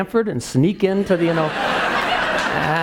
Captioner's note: laugh